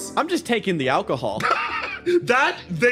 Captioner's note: laugh